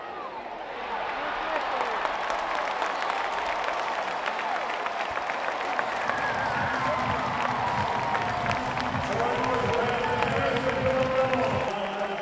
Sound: clapping

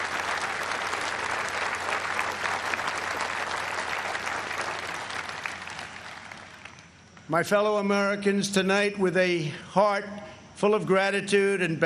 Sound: applause

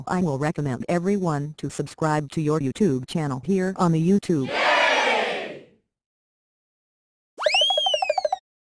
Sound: crowd Cheers

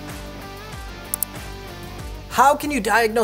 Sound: mouse clicking

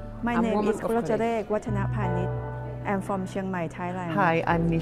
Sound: multiple women's voices

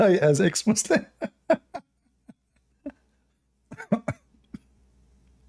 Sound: Ketawa

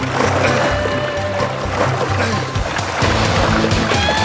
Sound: grunts and groans

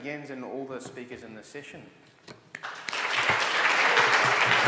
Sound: applause

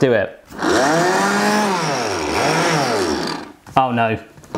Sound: food processor whirs

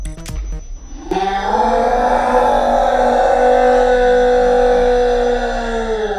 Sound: distorted audio

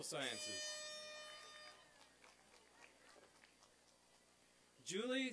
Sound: applause and cheering

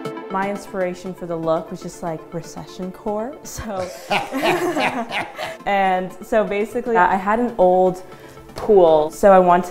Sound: laughs

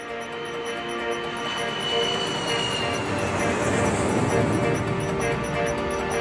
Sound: airplane sounds

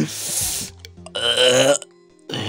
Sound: gasping for air again; orgasm sound

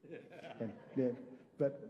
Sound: congregation laughing

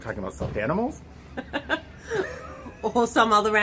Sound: laughing

